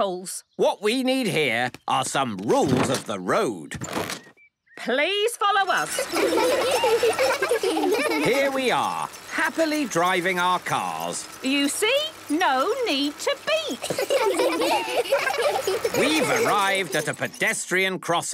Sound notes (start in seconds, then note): 5.7 laughter; 13.7 laughter